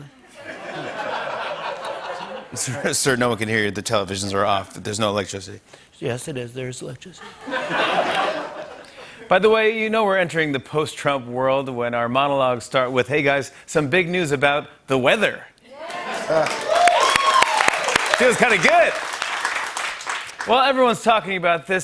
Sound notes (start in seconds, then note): 0.2 laughter; 2.1 normal voice; 5.7 as Trump; 7.2 laughter; 9.2 normal voice; 15.7 cheers and applause